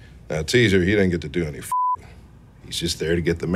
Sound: beep

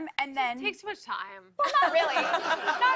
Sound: laughter

